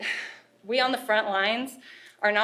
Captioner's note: sighs in frustration